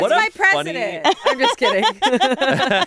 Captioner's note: all laugh